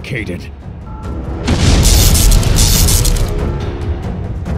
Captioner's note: fight music; ka-boom; electrical sparks; fight music